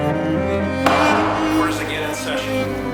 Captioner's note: gavel bangs